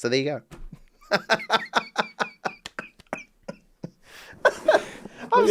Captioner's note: laughs